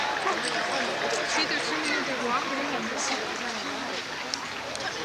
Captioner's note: crowds cheering in the distance